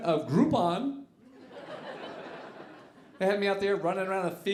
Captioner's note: audience laughing